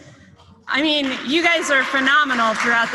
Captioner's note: applause